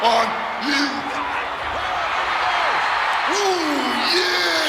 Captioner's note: audience cheering